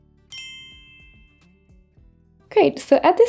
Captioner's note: screen chiming